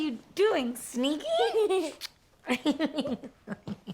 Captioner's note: Maya laughs; Ruby laughs